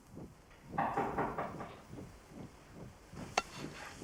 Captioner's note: knock on door